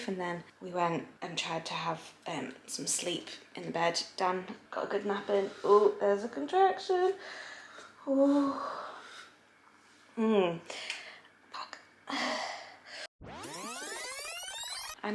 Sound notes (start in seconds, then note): 8.0 moaning; 13.2 tape whirring